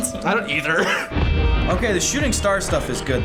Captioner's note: laughs